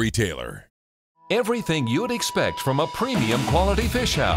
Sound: voiceover

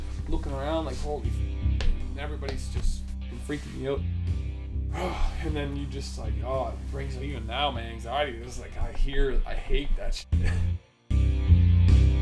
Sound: distressed rambling

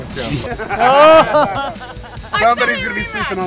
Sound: all laughing

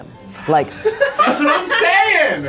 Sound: laughter

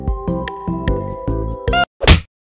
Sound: le slap

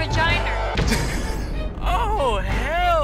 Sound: man laughs

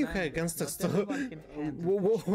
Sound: laughing

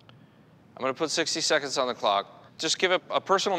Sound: none

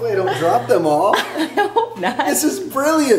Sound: laughs

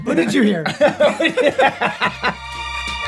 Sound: all laughing loudly; gentle upbeat music

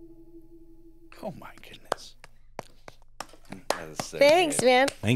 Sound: claps

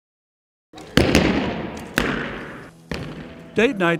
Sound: sound of arrows hitting targets

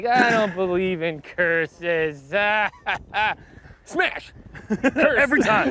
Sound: chuckles; chuckles; chuckling

